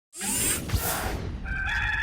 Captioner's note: whoosh; crowing